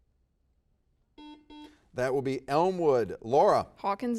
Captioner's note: bell dings